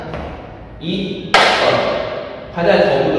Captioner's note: clap